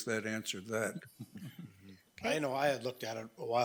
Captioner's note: people chuckling